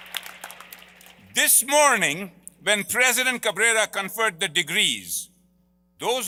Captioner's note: applause